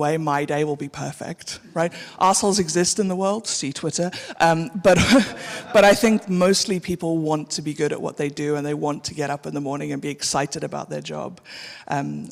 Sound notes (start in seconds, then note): 4.9 audience laughing